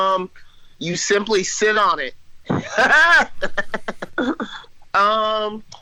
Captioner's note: laughs